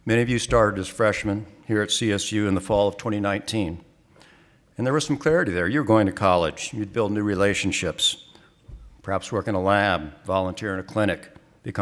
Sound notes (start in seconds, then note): none